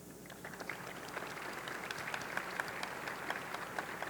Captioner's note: audience clapping